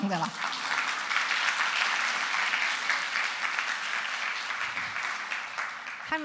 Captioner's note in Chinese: 掌聲